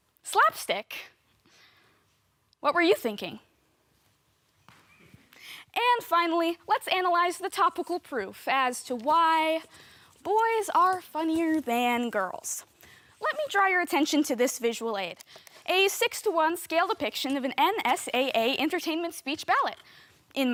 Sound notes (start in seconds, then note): 1.4 soft breathing; 3.6 thud